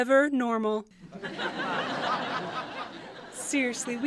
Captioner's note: light audience laughter